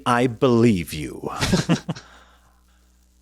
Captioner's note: laughing